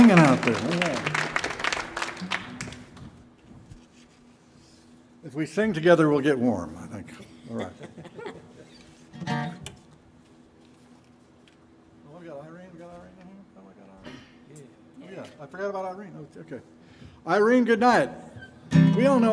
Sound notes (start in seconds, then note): 7.2 chuckling; 9.1 guitar strums